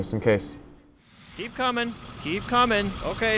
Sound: truck engine running

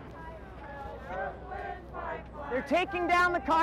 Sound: protesters chanting

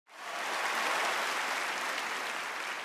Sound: audience applause

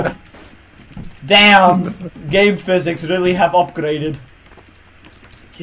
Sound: laughing

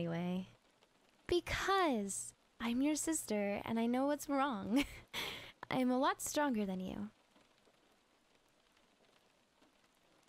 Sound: giggle

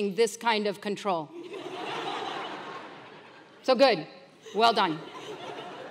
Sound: laugh

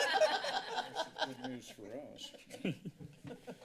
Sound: laughter; laughs

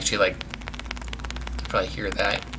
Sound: seed rattling in fruit

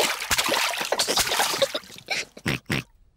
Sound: giggles; oinks

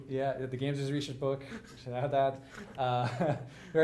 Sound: laughs

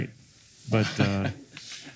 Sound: laughing

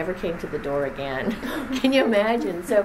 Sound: laughs

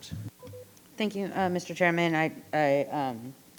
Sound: microphone beeping

